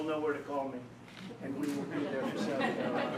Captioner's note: laughter